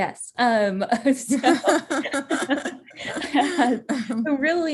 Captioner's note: both laughing